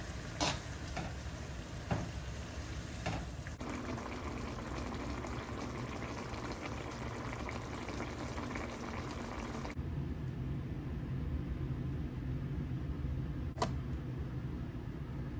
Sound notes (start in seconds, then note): 4.4 simmering asmr